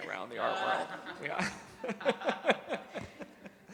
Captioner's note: laughing